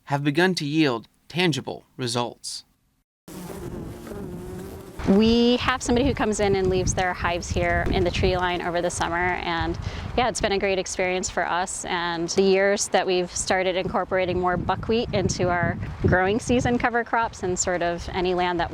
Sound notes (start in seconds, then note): 3.2 bees buzzing